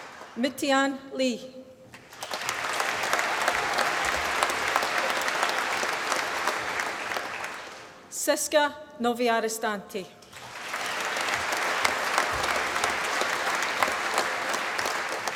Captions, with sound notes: Mutian Li. (APPLAUSE) Siska Noviaristanti. (APPLAUSE)